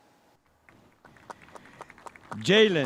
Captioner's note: spectators applauding